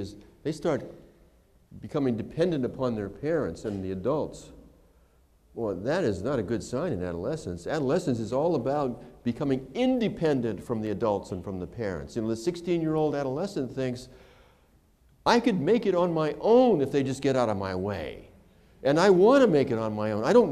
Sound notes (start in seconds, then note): none